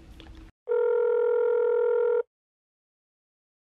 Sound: phone ringing

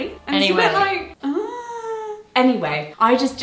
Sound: groans

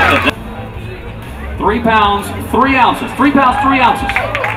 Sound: more cheers!

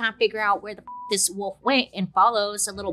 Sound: beeps

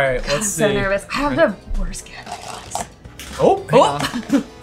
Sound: whispers

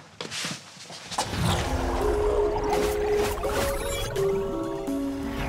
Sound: electronic beeping

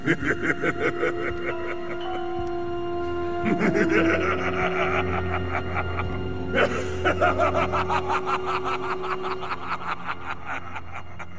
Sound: evil laugh

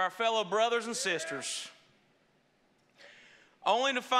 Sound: congregation praising

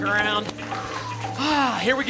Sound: sighs

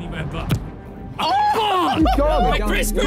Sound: players laugh

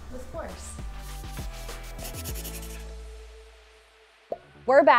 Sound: upbeat music; pen scraping

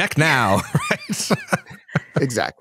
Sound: laughter

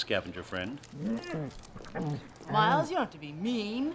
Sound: whimpering

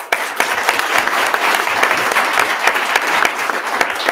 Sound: attendees clapping

